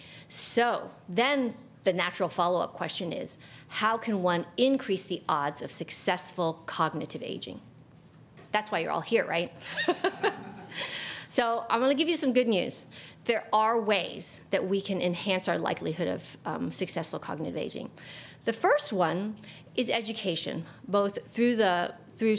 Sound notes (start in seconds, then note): 9.7 chuckles; 9.8 audience laughs